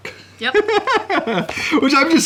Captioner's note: laughing